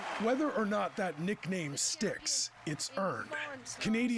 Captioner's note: applause